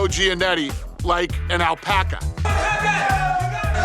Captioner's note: indistinct screaming